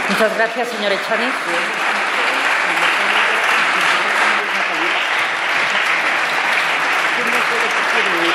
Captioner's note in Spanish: Aplausos